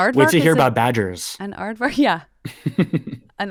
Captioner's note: laughing